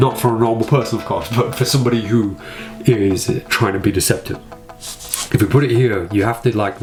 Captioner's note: chuckles